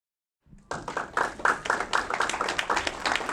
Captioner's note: clapping